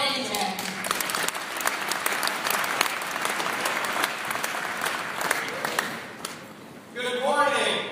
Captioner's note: applause